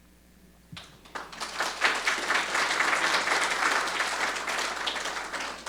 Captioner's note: audience applauding